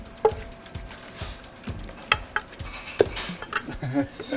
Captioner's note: sound of the mortar and pestle; laughter